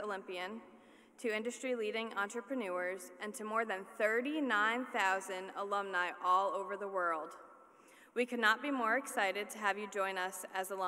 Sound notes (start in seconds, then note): none